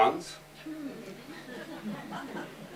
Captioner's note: laughter